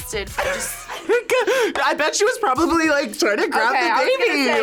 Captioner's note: laughs